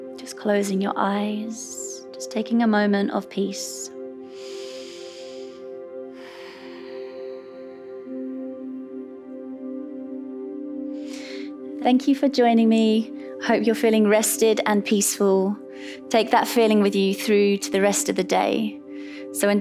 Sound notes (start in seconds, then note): 0.0 calm music; 4.3 inhales; 6.3 exhales; 9.0 calm music